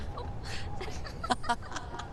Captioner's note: laughing